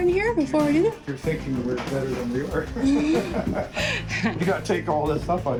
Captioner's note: laughs